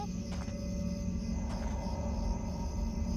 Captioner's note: footsteps